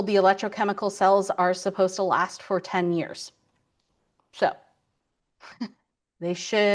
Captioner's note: chuckles